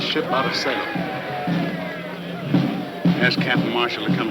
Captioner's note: men chattering